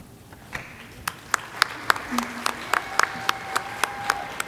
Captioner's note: audience applauding